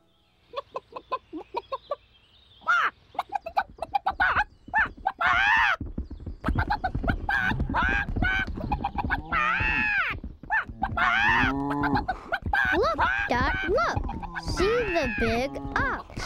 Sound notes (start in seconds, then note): 0.5 clucking; 3.1 squawks; 3.2 squawking excitedly; 6.9 hooves thundering; 10.5 bellowing